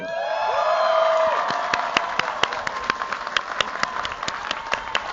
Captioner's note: cheers, applause